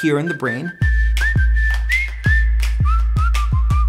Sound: whistling

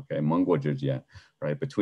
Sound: speaking in a foreign language

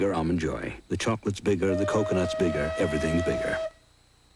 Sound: steam whistle

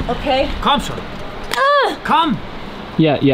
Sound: speaking foreign language

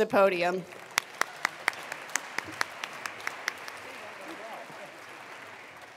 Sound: attendees applauding

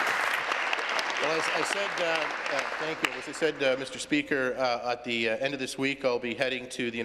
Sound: applause

